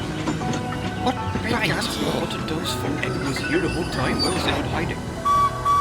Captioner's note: the engines mutter